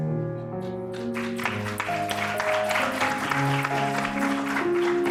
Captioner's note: applause